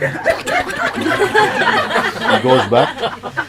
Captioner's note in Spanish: Risas